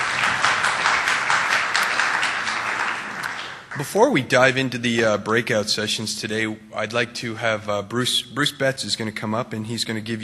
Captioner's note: appluase